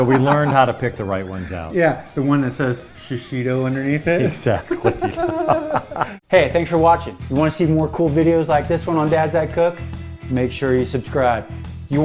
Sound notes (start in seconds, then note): 4.1 laughter